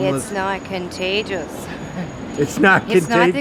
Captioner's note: laughing